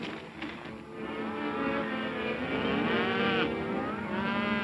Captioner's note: cows mooing